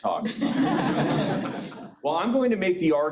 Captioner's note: audience laughing